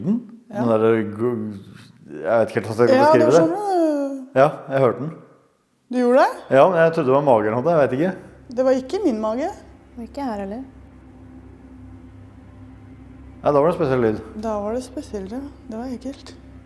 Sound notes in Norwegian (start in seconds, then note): 2.1 etterligner lyd